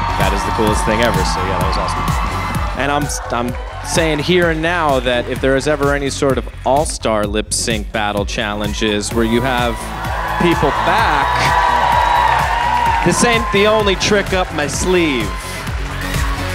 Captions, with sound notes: - That is the coolest thing ever, so yeah that was awesome and I'm saying here and now that if there is ever any sort of all-star Lip Sync Battle challenges where you have people back, (audience cheering) this ain't the only trick up my sleeve.